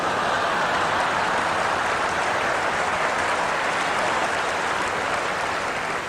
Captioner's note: applause; laughter